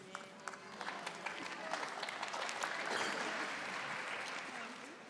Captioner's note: audience applauding